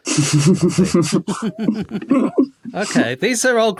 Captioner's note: snicker